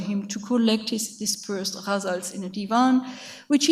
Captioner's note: speaks in a foreign language